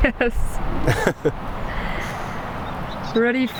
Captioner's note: laughing